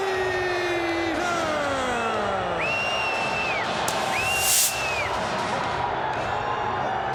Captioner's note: crowd cheering